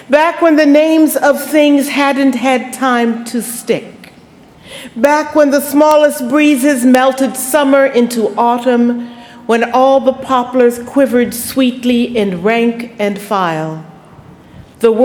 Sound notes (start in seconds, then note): none